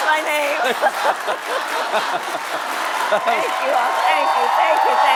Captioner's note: laughter